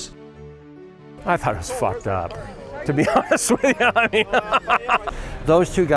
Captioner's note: laughs